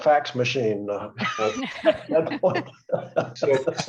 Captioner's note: laughter